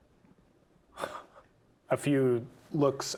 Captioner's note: chuckles